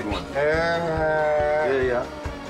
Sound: man speaking foreign language

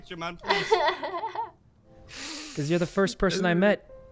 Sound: laughs

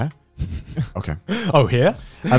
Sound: laughing

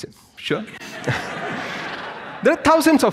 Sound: audience laughs

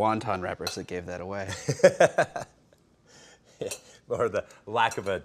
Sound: Ming laughing

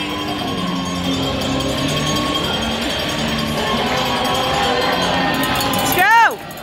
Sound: bell ringing and crowd cheering

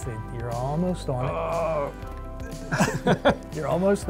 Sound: grunt of effort; laughter

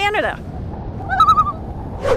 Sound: loon call

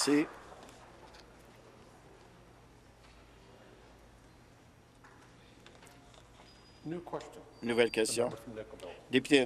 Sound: applause

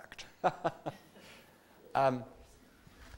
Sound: laughter

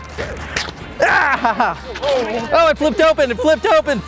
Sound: groans

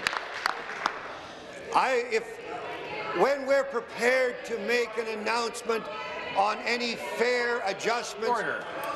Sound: applause

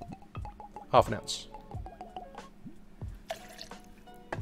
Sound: liquid pouring

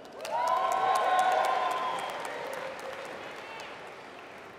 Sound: applause

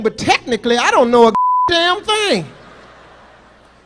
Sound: beep

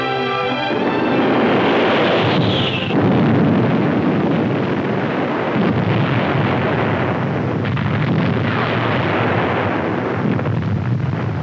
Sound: explosions

